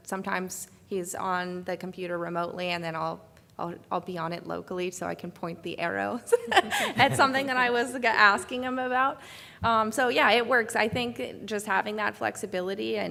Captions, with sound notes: Sometimes, he is on the computer remotely and then I'll be on it locally so I can point the arrows. (laughs) It's something that I was asking him about. So yeah, it works. I think just having that flexibility